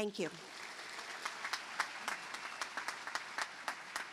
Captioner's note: applause